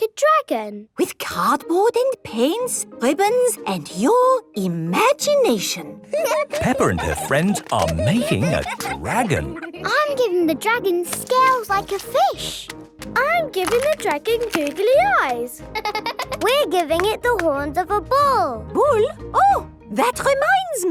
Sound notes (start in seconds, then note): 6.0 giggling; 14.2 laughing